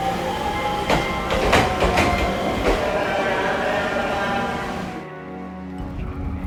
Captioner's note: train rattling; announcer speaking in Japanese